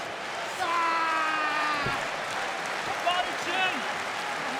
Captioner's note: audience clapping